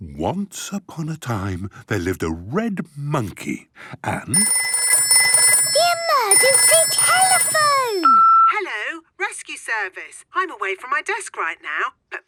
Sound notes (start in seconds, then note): 4.3 phone ringing; 8.0 answering machine